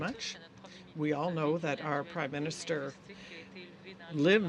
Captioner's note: speaking French